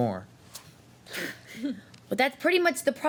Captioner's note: laughs